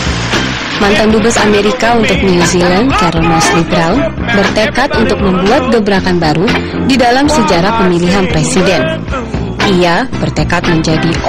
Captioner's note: non-english speech